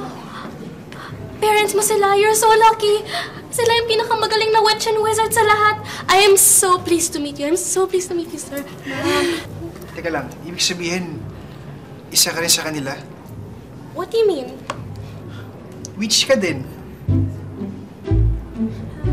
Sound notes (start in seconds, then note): 9.0 Ella chuckles; 17.0 comical music plays